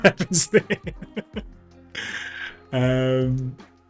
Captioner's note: laughs